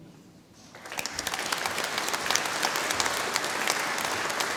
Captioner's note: audience applauding